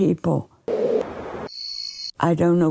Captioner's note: wind whistling; birds chirping